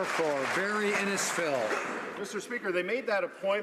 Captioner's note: some Applause